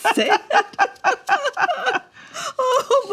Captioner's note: both laughing